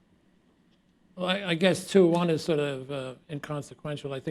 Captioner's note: none